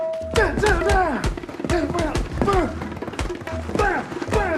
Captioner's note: grunting continues